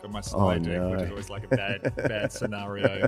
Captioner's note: chuckling